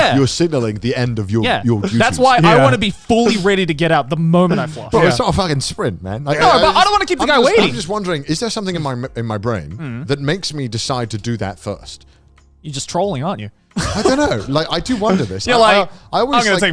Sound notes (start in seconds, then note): 13.7 laughing